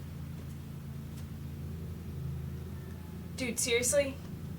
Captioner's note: birds chirping